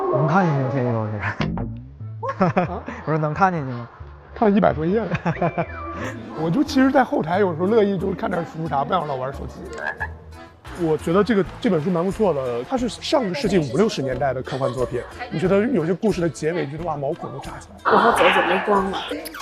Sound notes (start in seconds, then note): 2.2 haha